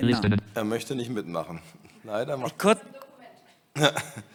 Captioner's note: voices in the background